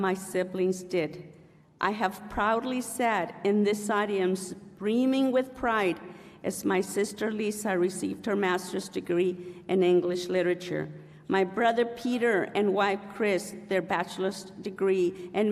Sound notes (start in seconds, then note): none